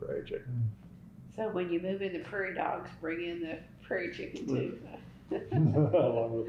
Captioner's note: laughter